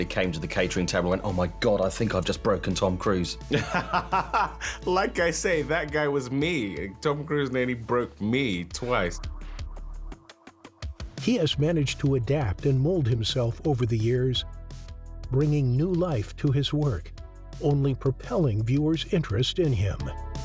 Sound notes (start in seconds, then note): 3.5 laughs